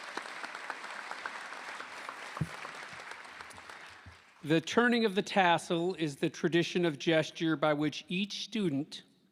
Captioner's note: applause